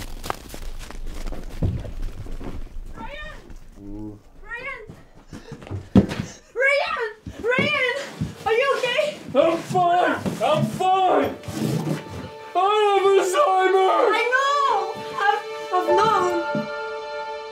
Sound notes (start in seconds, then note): 3.7 Ryan grunt; 11.0 dramatic Music